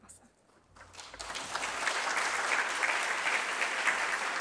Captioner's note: applause